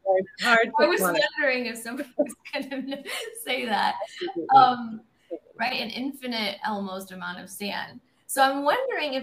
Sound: laughter

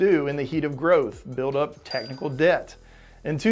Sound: bell dings

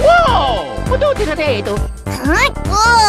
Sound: italian gibberish

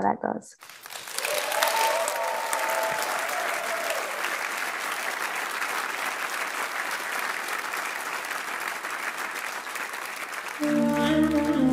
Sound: applause

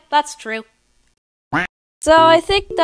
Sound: quack!

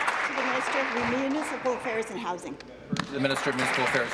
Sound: applause

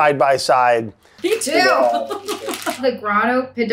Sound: laughs

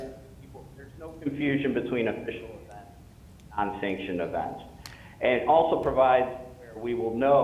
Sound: audio fading in and out

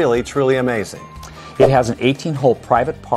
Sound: note swooshes

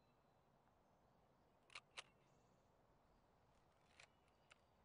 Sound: shutter clicks

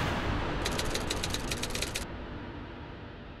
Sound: typewriter keys click

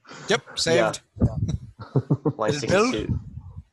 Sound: laughs

